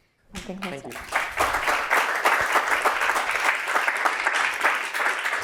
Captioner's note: applause